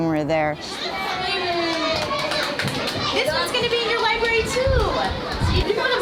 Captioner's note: applause, chatter